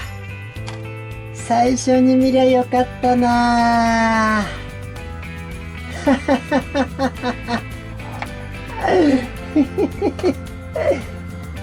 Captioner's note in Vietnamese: cười